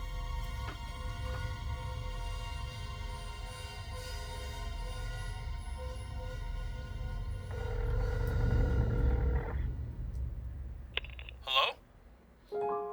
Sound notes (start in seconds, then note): 7.5 phone ringing